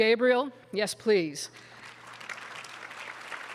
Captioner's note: applause